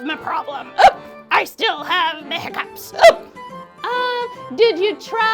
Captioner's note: hiccups; hiccups